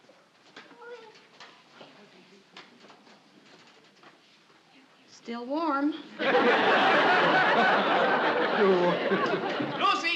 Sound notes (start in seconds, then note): 0.8 baby garbles; 6.1 audience laughing